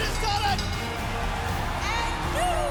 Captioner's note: bell ringing